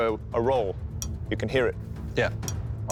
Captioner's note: metal pings